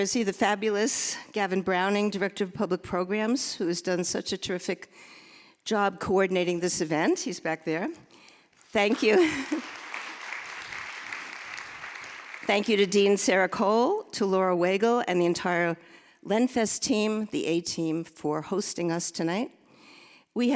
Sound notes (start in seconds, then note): 8.6 audience applauding